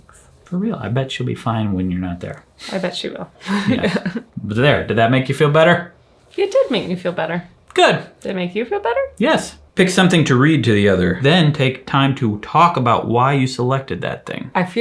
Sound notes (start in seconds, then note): 3.4 chuckle